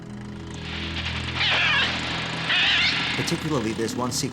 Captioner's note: bird cawing